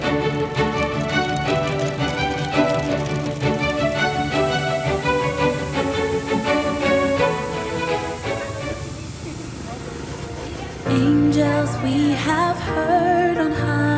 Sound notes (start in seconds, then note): 0.0 bibingka cooking, charcoal sizzling; 2.9 putu Bumbung steaming